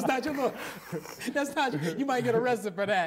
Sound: laughing

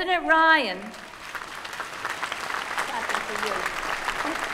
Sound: applause

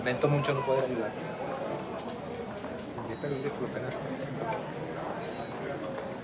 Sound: none

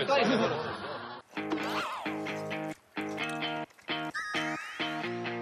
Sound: slurp

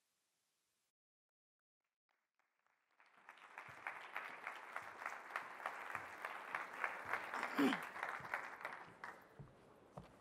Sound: applause

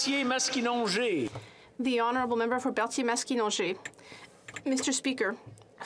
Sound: some Applause

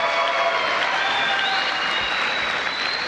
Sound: applause

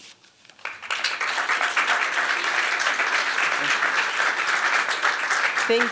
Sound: applause

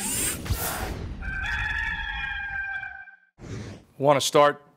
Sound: rooster crows

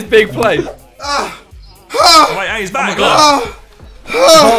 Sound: sighs

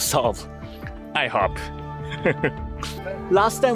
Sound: laugh

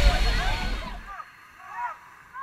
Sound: yelling

